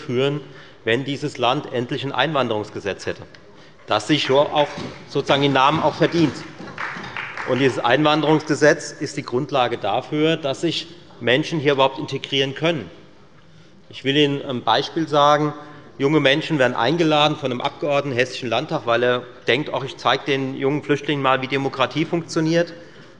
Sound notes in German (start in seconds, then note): 6.6 Beifall bei Abgeordneten der SPD